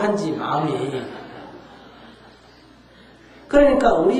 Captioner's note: audience Laughter